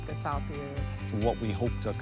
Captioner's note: crowd cheers